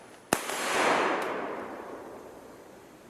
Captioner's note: gun fires